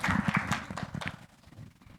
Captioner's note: applause